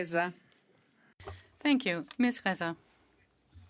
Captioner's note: speaking French